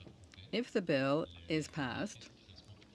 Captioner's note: speaking French